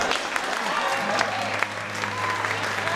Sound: cheering and applauding; upbeat piano music

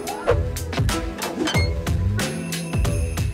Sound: guitar strumming; sign creak

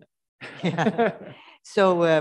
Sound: all laughing

